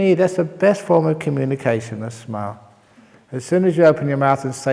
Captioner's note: none